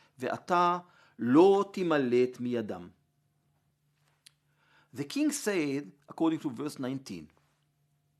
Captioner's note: Hebrew; Hebrew